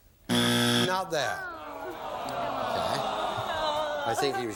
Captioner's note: buzzer